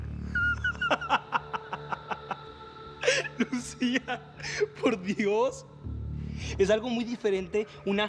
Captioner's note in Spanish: Carcajadas